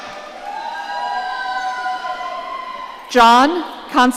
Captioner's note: audience cheering